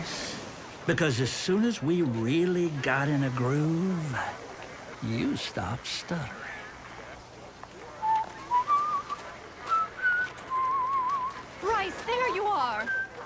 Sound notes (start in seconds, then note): 7.5 whistling